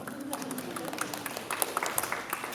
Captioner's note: applause